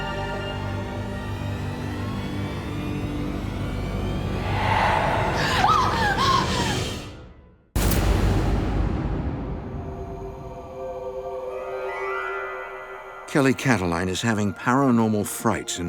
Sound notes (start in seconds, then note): 3.9 low whisper; 4.5 screams; 4.8 gasps